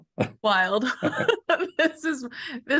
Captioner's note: laughter